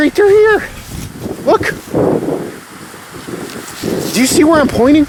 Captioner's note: wind gusting